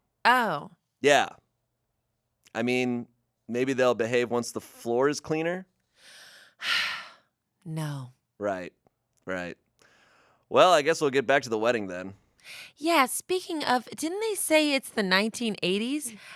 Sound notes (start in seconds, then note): 6.6 sighs